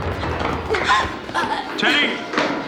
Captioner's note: grunting